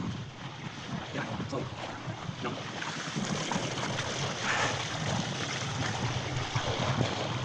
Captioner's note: water splashing; wind whooshing